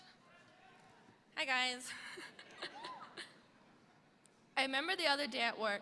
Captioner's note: giggling